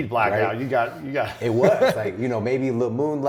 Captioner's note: laughs